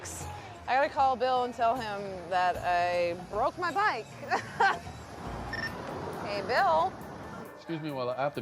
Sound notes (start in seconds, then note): 4.2 laughs